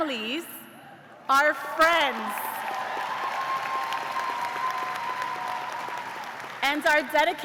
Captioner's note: cheers and applause